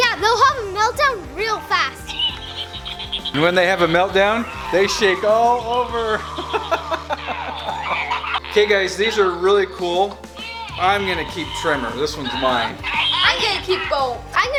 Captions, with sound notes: - Yeah, they'll have a meltdown real fast! - And when they have a meltdown, they shake all over! (laughs) (toys chatter) Kay guys, these are really cool, I'm gonna keep Tremor. This one's mine. - I'm gonna keep Bolt.